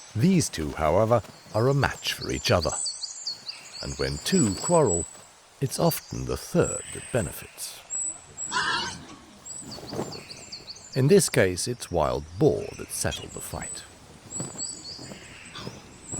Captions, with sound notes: These two, however, are a match for each other. And when two quarrel, it's often the third that benefits. [boar squeals] In this case, it's wild boar that settled the fight.